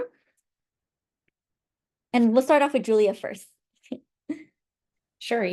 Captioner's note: laughter